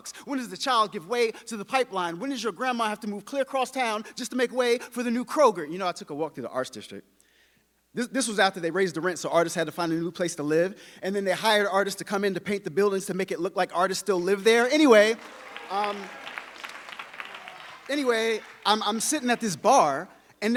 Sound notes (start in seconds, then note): 14.9 audience applauding